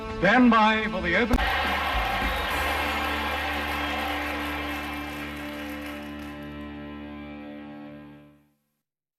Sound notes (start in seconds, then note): 1.4 audience clapping